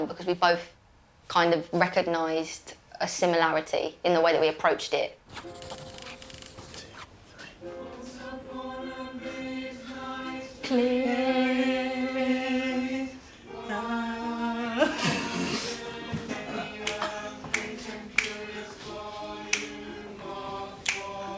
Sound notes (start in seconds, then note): 6.8 whispers; 11.7 singing; 14.9 laughing; 18.2 fingers snapping